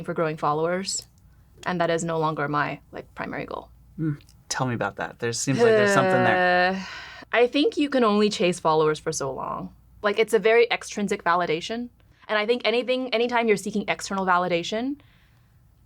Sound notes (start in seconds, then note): 5.6 sighs